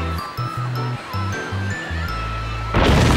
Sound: explosion

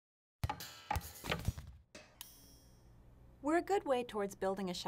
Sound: springing noises

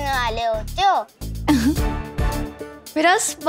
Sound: laughing

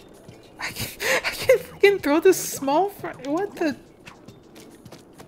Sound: chuffs

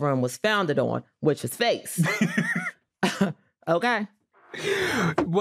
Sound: laughs; chuckles

